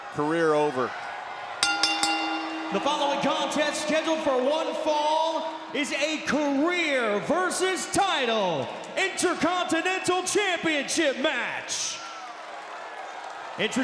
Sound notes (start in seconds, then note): 1.6 bell chimes